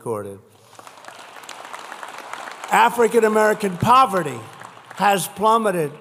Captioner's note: applause